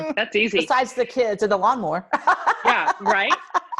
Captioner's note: laughs